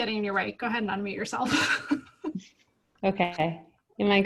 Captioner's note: laughs